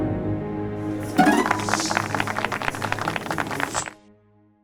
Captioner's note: applause